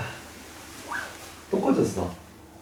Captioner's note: rustle